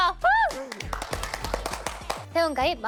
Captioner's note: clapping